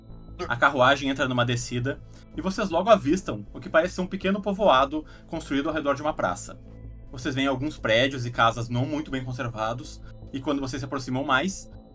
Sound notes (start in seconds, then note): none